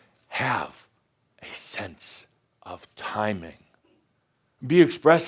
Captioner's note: speaking in a monotone voice; speaking dramatically